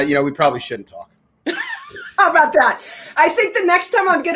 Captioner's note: laughs